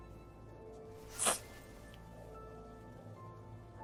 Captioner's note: sniffling